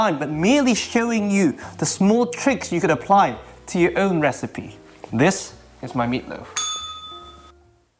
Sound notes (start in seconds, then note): 6.5 bell rings